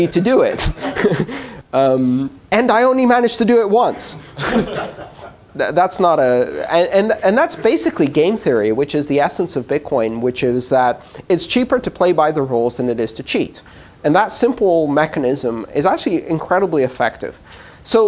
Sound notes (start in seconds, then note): 4.3 laughter